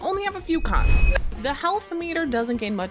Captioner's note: letters beep